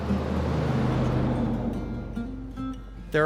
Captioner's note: engine revving; light music